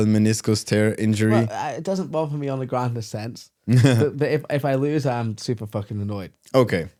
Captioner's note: laughing